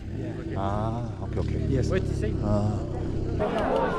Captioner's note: All three lower their voices when talking about the Taliban